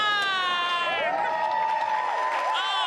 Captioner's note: crowd cheering